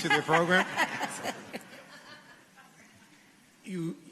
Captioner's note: laughter